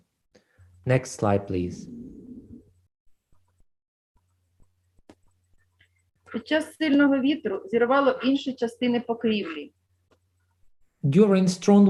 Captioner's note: foreign Language